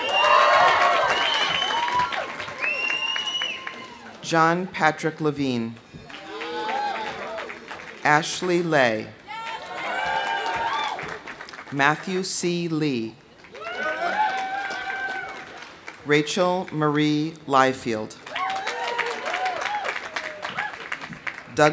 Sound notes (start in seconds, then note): 0.0 audience cheering; 0.0 audience applauding; 6.0 audience applauding; 6.0 audience cheering; 9.2 audience cheering; 10.9 audience applauding; 13.4 audience applauding; 13.5 audience cheering; 18.2 audience applauding; 18.2 audience cheering